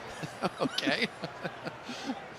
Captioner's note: laughter